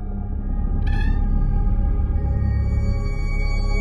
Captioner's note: door creaks open; eerie music